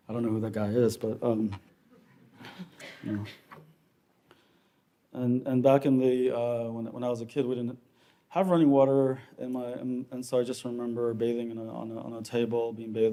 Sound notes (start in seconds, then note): 2.0 audience chuckling